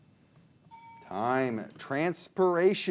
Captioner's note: bell dings